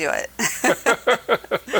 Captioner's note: chuckling